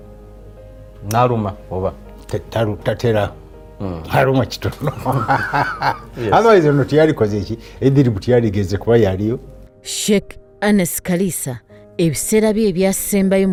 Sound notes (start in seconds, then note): 4.6 laughs